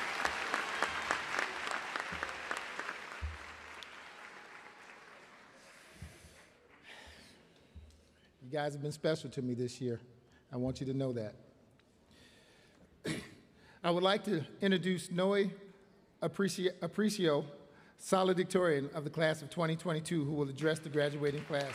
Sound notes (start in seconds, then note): 5.9 applause